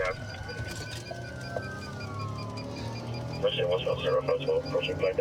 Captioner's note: sirens wailing